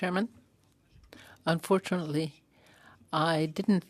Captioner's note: speaking French